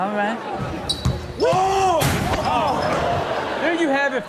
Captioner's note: shouting and crashing